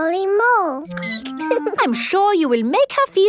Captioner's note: squeaking